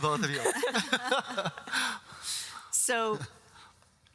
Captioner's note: all laugh